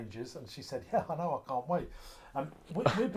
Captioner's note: laughs